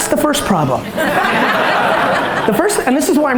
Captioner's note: audience laughter